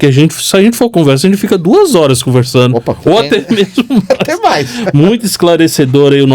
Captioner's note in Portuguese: risadas